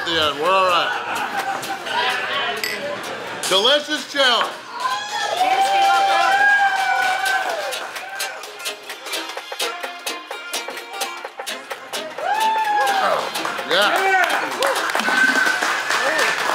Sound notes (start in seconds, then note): 5.7 people cheering and clapping